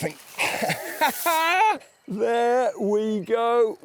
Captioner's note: laughs